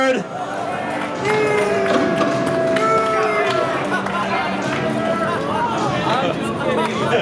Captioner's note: audience laughs and boos